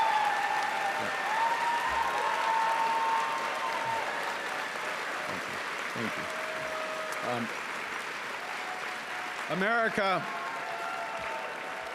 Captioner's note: cheering and Applause